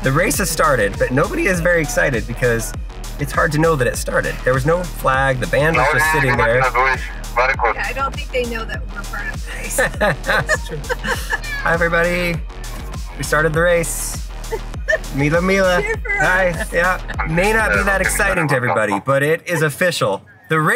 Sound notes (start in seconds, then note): 9.4 host laughing